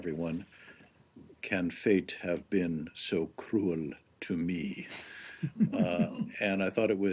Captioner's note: laughter